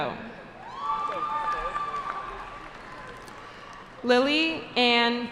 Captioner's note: cheering